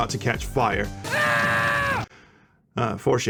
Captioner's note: agonized screaming